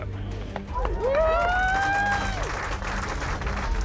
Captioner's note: all cheering